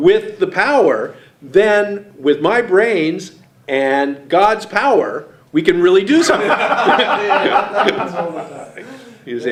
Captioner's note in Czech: smích